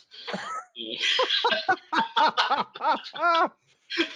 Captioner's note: both laugh